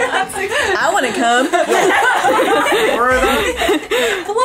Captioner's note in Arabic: الكل يضحك